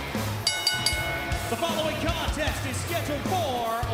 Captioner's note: bell ringing